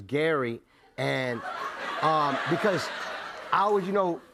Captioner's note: laughter